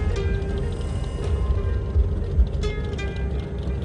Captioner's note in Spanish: Sonido del carro